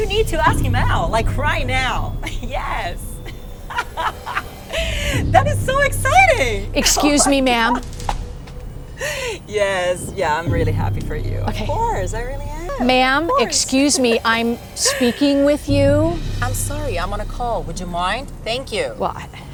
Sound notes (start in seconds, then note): 3.6 driver laughing